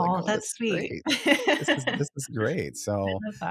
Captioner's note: laughing